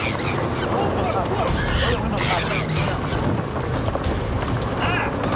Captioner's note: voiceover; chimps squealing